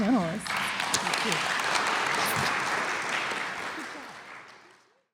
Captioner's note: applause